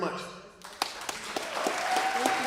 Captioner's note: applause